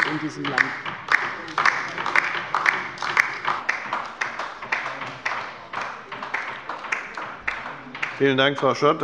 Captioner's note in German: Beifall bei der LINKEN